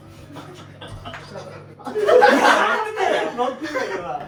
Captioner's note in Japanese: 笑い